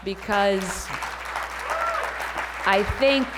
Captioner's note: applause